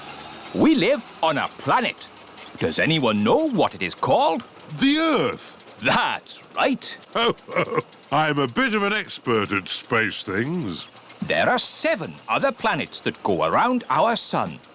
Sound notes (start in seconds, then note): 5.8 chuckles